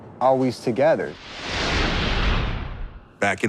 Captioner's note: intense whooshing